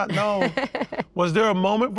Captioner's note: laughs